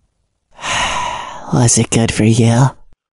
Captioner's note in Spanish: Suspirando